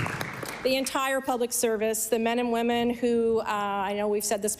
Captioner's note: applause